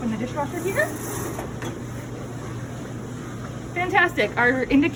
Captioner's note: door creaks open